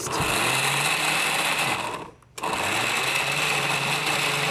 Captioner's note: blender whirring